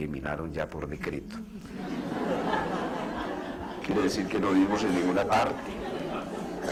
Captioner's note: laughter